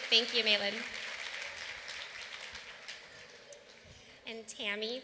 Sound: applause

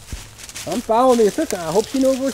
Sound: voiceover

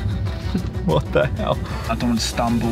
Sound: laughing

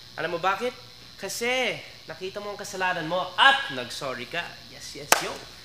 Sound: none

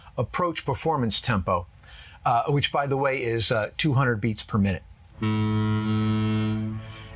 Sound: foghorn blast

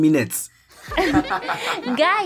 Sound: laughing

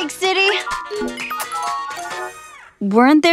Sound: computer dinging

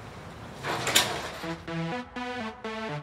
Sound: garage door clangs

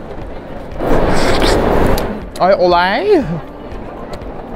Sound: slurping

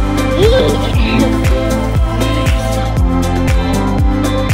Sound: laughing

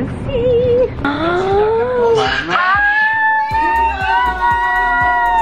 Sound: gasps

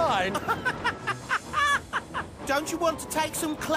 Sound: bill and ben laugh

